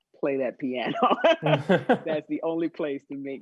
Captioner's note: laughing